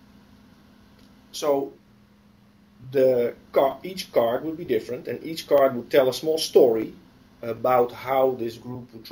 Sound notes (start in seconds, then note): 0.6 pause